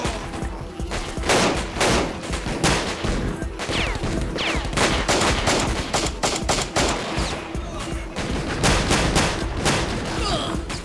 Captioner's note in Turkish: si̇lah sesleri̇